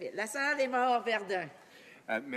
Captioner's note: speaking French